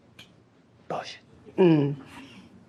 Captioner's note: whispers